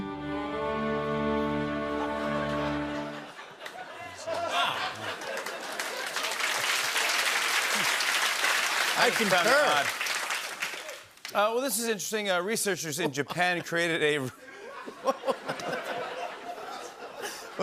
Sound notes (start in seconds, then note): 2.5 laughter; 6.4 applause; 14.2 laughter